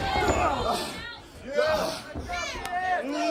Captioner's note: crowd chatter